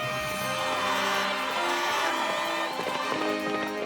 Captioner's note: cheers and applause